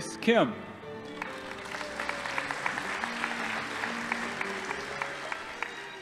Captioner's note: audience applauding